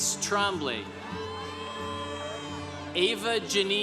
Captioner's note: congregation cheering